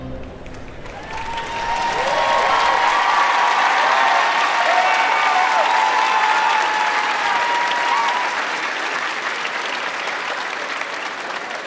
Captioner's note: cheering and Applause